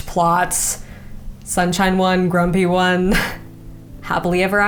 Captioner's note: chuckles